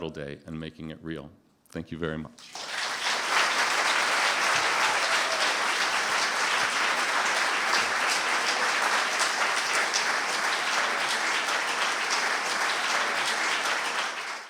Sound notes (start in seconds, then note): 2.4 applause